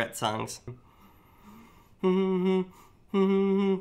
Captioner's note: humming